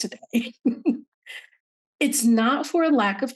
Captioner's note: laughing